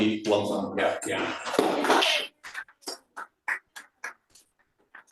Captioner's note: applause